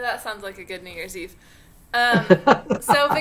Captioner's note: laughter